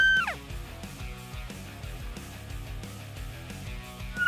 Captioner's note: horn bugling